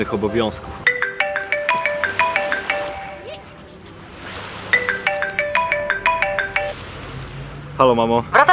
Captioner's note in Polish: dzwoni telefon